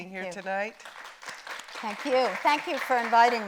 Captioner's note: audience applauding